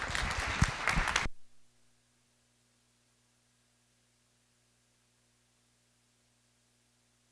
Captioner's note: applause